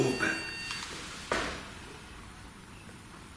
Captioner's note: beeping